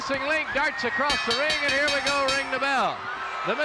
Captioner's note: bell ringing